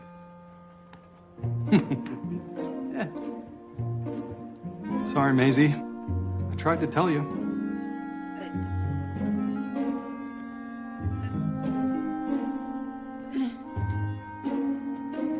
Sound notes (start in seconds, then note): 1.6 laughs; 8.0 stammers